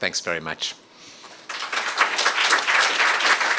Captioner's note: applause